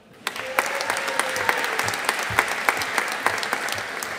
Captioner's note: audience applauding